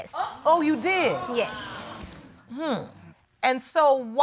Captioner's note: audience exclaiming